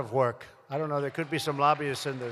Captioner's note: applause